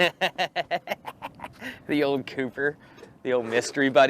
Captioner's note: laughter